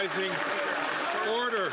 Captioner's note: applause